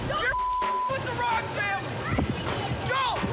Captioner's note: beep